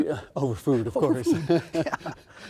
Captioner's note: laughing